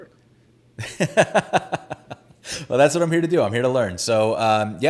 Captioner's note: laughs